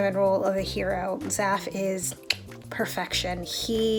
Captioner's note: clicks